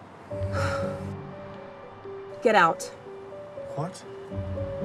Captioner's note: sighs